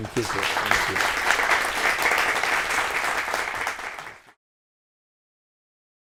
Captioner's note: audience applauds